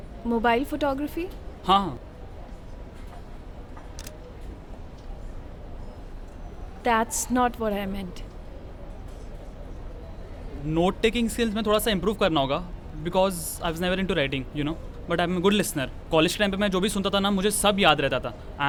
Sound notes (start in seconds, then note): 3.9 clicks a picture